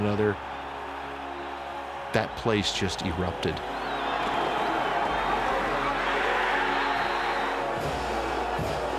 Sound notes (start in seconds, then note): 1.5 crowd cheering; 7.9 crowd cheering